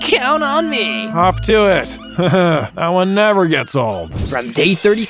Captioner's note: sarcastically